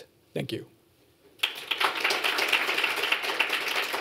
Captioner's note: applause